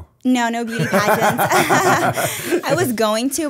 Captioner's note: laughter